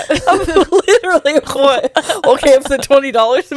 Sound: laughs

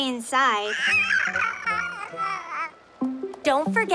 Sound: babbles

